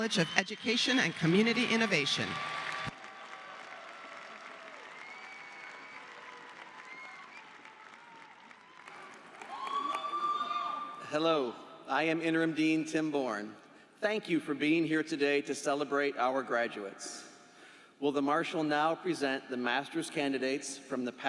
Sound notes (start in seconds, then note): 7.3 applause